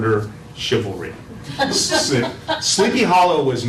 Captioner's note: laugh